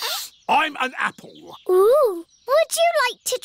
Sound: sniffs

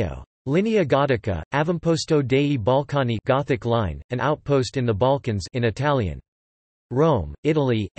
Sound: in Italian

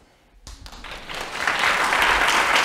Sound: applause

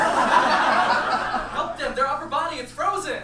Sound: audience laughs

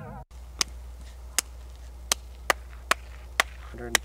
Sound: claps

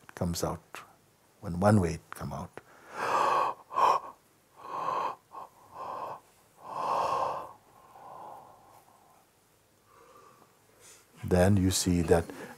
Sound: yawning

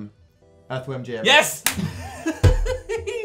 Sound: adorable giggling

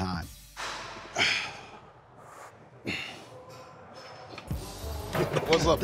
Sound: grunting

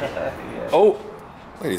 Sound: both laugh

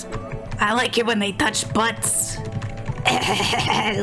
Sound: in a gritty accent

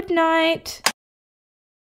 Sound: click!

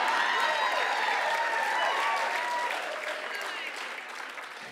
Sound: cheering and applause

